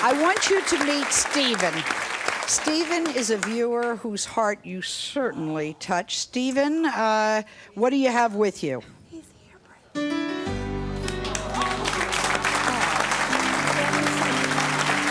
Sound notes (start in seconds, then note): 10.9 audience applauds; 12.4 gentle music